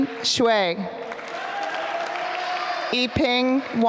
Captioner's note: applause